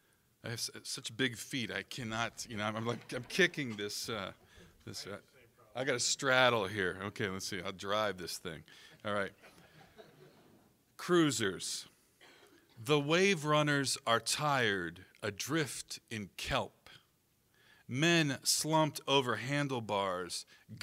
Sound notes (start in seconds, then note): 9.4 audience laughing